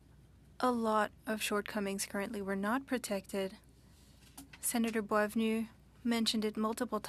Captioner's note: speaking French